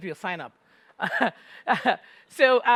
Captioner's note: laughter